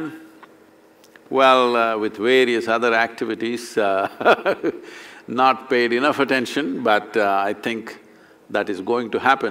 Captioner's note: laughs